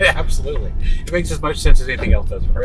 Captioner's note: chuckles